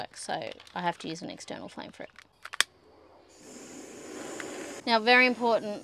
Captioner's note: lighter clicks and flame hisses